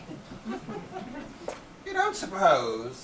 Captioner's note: audience laughs